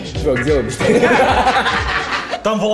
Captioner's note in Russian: смех